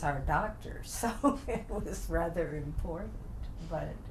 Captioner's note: laughs